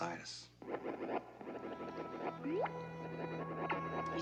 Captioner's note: bleeping from video game